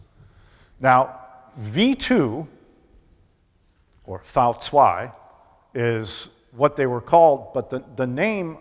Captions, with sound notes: Now, V2 or [foreign language spoken] is what they were called, but the name